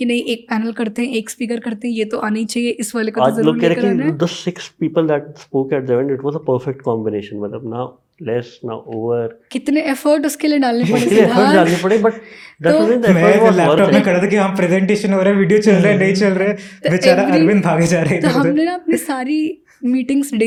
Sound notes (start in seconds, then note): 12.6 speaks in Hindi